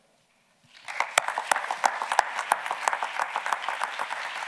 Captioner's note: audience clapping